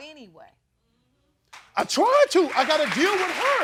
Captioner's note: crowd applauds